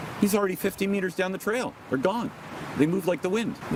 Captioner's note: none